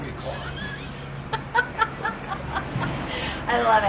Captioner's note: laughs